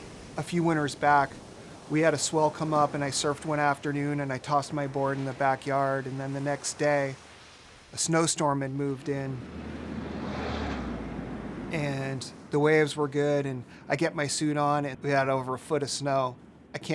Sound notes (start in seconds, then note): 9.7 wind gusting